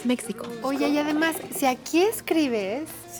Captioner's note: speaking Spanish